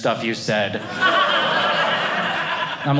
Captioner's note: audience laughing